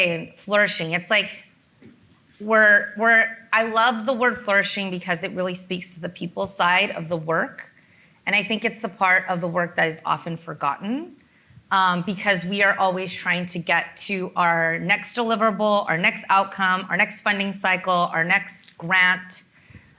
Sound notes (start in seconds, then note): none